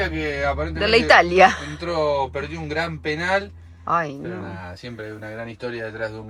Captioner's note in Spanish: risas